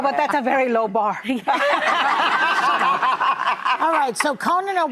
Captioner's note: laughing; laughing